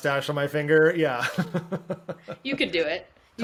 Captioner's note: laughs